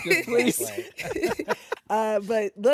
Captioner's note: all laugh